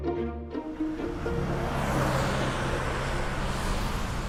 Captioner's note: cars zooming